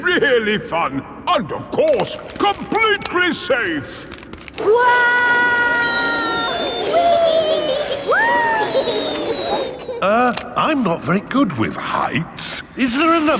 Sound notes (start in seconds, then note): 5.1 all yelling